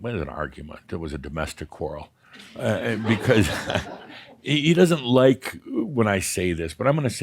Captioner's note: some chuckles